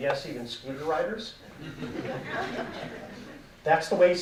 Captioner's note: audience laughing